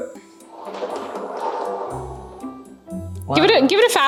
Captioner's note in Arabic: خشخشة العجلة بهدوء